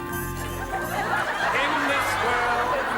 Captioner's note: audience laughs